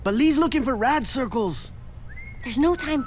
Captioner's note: whistling